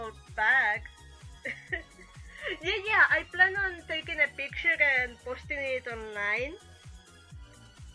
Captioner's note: chuckle